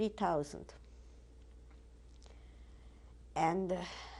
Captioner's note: pauses for 3 seconds